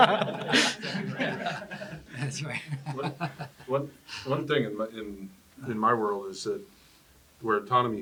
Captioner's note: laugh